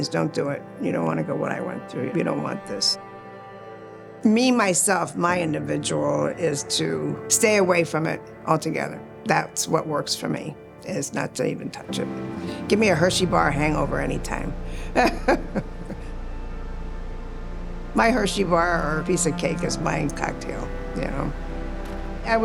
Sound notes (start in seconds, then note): 14.6 chuckles